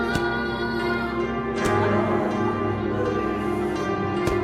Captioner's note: Adison crying out, fists hitting flesh